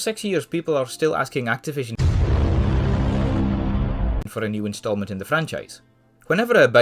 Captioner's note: thud